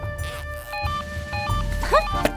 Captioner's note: beeping